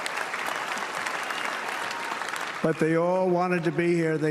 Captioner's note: applause